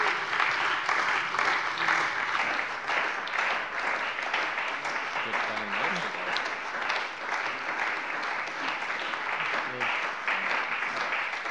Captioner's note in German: Beifall bei der CDU und dem BÜNDNIS 90/DIE GRÜNEN